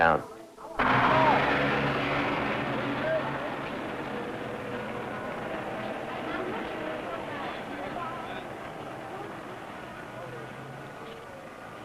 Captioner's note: street noise, traffic